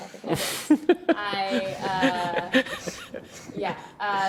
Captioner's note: panelists laugh